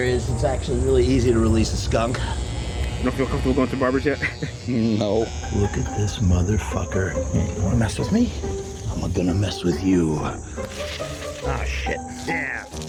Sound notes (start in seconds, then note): 3.9 electric razor buzzing; 10.5 water hose spritzing; 12.7 water hose spritzing